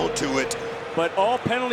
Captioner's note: gong rings